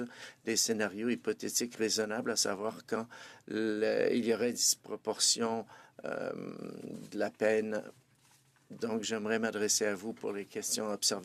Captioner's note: speaking French